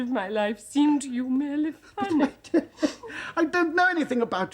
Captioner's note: sniffles